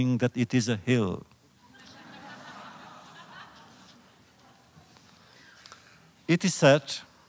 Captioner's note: laughter